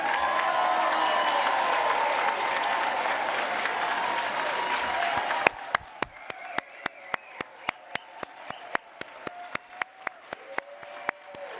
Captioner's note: cheering and Applause